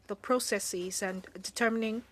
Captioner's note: speaking French